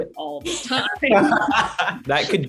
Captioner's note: all laugh